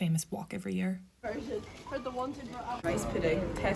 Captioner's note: girls chatting